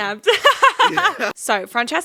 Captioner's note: laughing